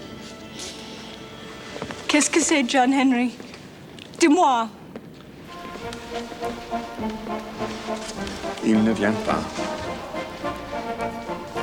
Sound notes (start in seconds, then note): 2.1 speaks French; 4.1 Jilly speaks French; 5.5 upbeat orchestral music; 8.6 John speaks French